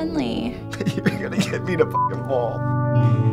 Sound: choked up

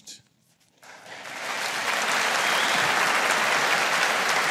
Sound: audience applauding

